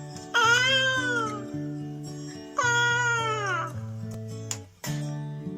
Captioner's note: sound of a parrot's call